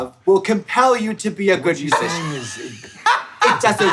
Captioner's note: Trixie laughing